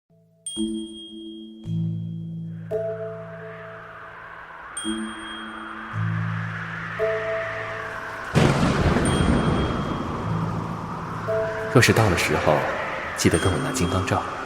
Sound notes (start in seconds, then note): 0.1 soft music; 4.7 thunder; 5.3 rain